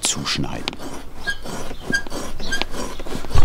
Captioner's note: soft squeaking